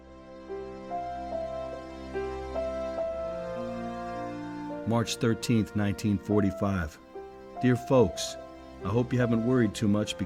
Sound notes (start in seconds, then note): 0.2 light instrumental music; 5.1 voiceover